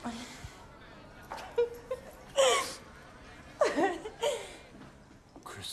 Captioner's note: laughing